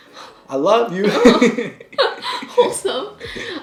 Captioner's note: both laughing